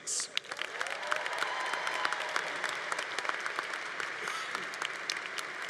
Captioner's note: congregation applauding